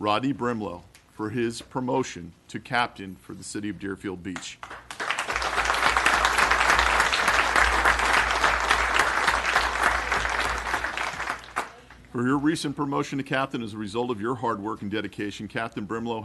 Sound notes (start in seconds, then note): 11.1 applause